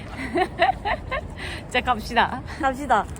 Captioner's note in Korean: 웃음